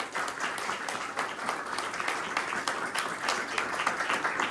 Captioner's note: applause continues